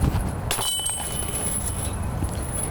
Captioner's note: disc hitting chains